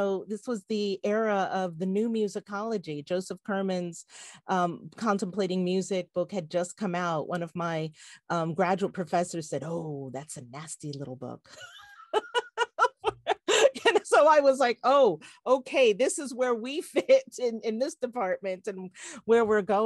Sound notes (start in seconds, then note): 11.6 laughs